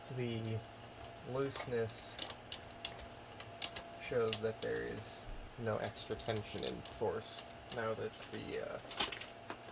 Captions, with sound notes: The looseness... [Plastic rattles] Shows that there's no extra tension in force. Now that the, uh... [Metal clinks]